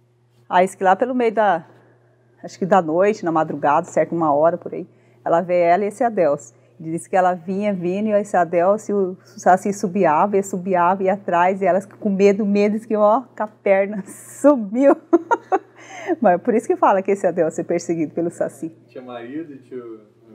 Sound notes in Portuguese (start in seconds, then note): 14.9 risos